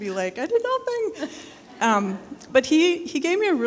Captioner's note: people chuckling